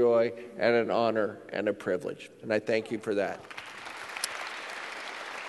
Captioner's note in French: Applaudissements